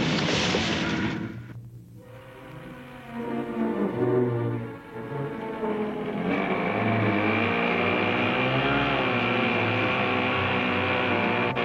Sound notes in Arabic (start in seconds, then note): 4.6 هدير المحرك